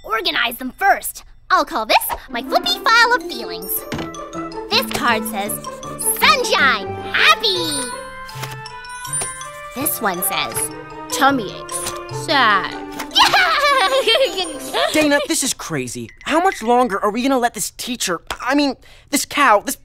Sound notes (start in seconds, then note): 13.1 giddy laughter